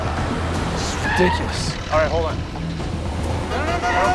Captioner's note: horn honks